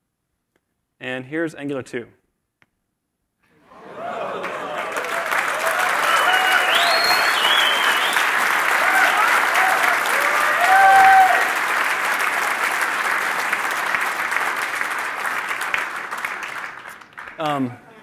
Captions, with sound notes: And here is Angular 2. [CHEERS AND APPLAUSE]